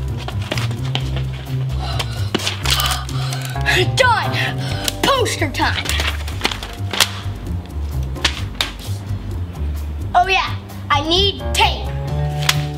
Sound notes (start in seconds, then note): 0.2 playful music continues; 2.8 pants; 7.5 playful music continues